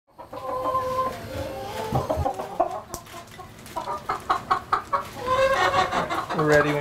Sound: a chicken cackles

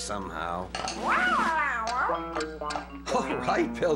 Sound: meowing

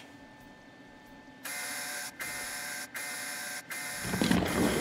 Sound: alarm blaring

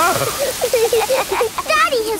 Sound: laughing

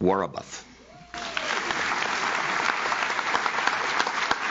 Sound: audience claps

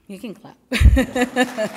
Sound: laughs; applause

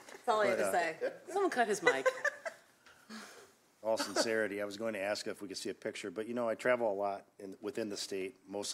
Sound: laughter

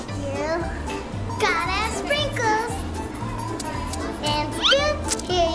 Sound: bottle shakes

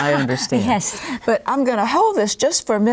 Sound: laughs

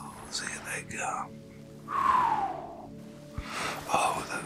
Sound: blows

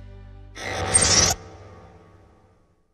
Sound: mechanical sfx

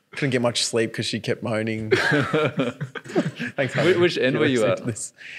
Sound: laughing

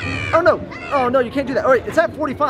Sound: squawks

